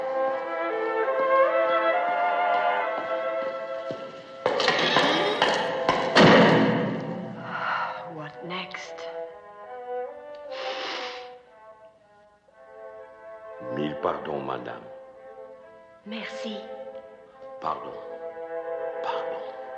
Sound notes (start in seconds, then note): 7.2 sighs; 10.5 gasps